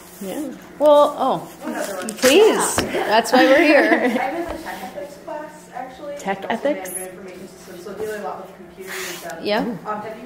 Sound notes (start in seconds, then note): 1.8 voiceover